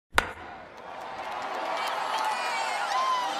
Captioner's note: baseball being hit; cheering